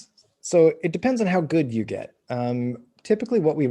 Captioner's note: none